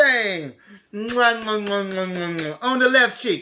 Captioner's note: kisses